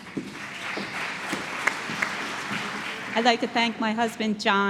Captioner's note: applause